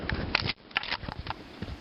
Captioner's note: click